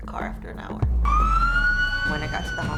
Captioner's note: ambulance sirens